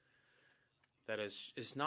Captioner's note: speaking French